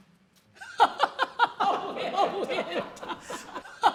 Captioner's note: laughter